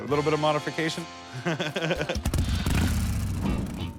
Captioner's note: laughs